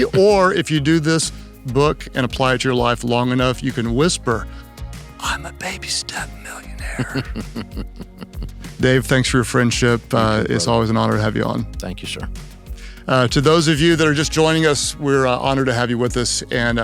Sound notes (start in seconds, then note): 6.8 Dave laughs